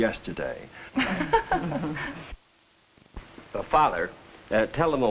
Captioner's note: group laughs